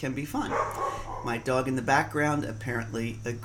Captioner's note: barking